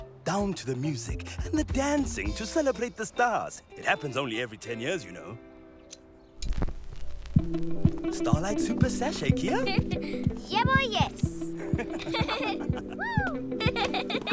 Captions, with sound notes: Down to the music and the dancing to celebrate the stars. It happens only every ten years, you know! - Starlight super sashay, Kiya? - (Giggles) Yebo, yes! - (Laughter) - Whoo! (Laughter)